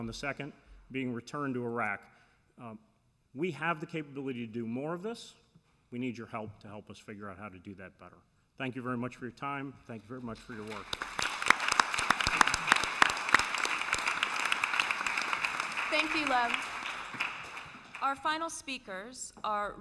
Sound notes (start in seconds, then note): 12.8 applause